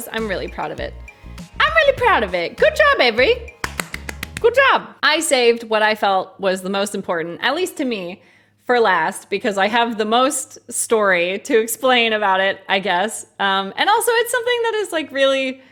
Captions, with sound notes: I'm really proud of it. I'm really proud of it. Good job, Avery! [claps] Good job! I saved what I felt was the most important, at least to me, for last. Because I have the most story to explain about it, I guess. And also it's something that is like, really